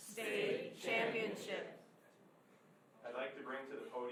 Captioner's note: crowd